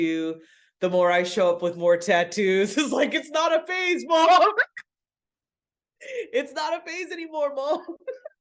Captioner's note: laughs